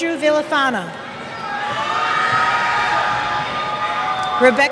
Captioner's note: cheers